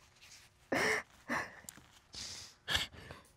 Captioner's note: continues crying